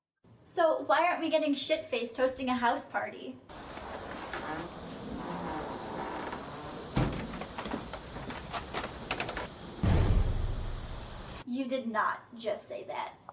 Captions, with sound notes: So why aren't we getting shit faced hosting a house party? (Wood creaking from wind) (Footsteps on wood panels) You did not just say that.